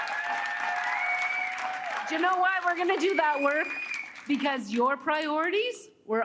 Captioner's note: cheers and Applause